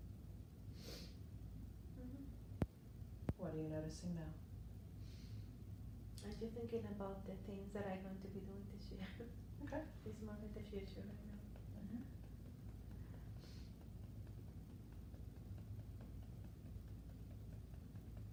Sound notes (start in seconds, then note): 13.0 gentle tapping